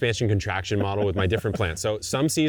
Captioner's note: laughing